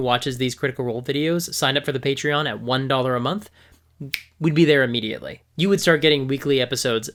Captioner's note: snaps